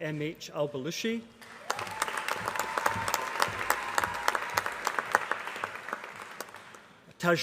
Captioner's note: applause